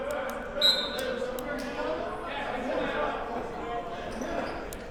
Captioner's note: whistle blows